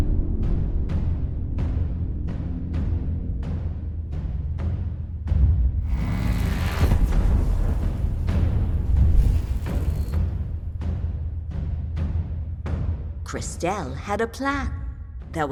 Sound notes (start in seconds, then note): 5.9 energy buzzing; 10.4 tense orchestral music